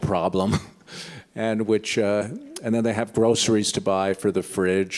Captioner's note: laughs